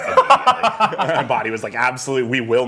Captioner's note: laughing